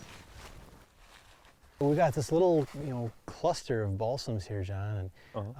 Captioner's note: footsteps crunching